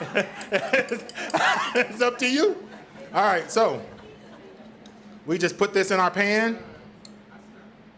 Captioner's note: laughs